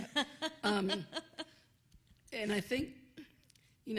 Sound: laughs

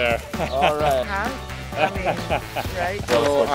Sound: laughter

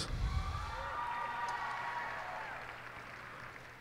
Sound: cheers and applause

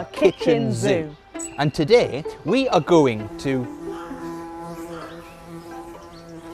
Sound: buzzing

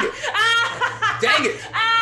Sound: laugh

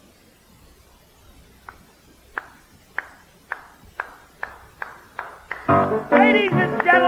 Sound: slow clap

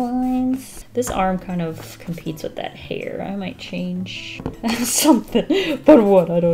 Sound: laughs

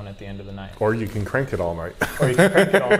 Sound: laughs

